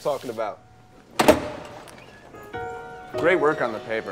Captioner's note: door rattling